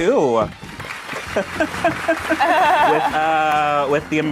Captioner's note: group applauds